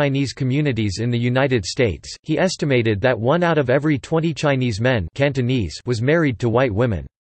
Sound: Cantonese

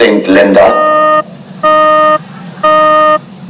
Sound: beep

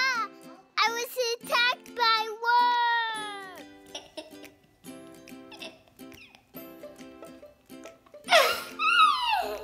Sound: laughter

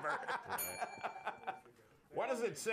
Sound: laughter; bell rings

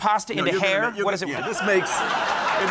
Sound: speaking faintly; crowd laughs

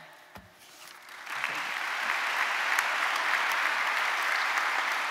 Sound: audience applauding

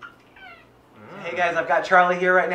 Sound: meow

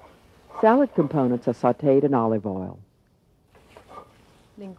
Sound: voiceover

